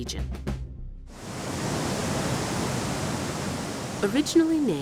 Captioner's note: water rushing